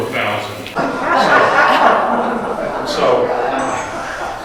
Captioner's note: audience laughs